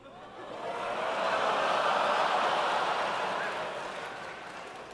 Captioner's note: laughter